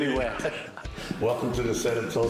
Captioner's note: laughter